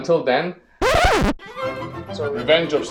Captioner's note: record scratch